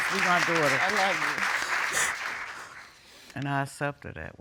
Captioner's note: sobbing